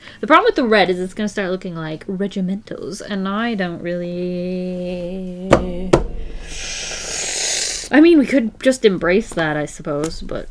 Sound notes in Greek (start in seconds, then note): 5.5 χτύπημα; 6.1 Βαθιά εισπνοή